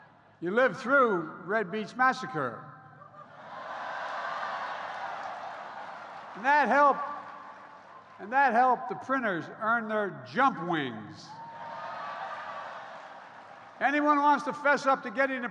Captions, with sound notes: You lived through "Red Beach Massacre." (Applause.) And that helped -- and that helped the printers "earn their jump wings." (Applause.) If anyone wants to fess up to getting a printer